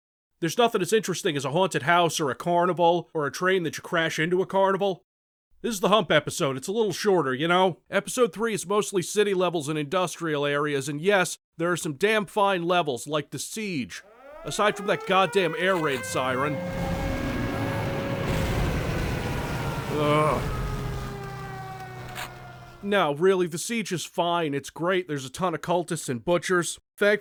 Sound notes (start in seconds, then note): 16.6 air raid siren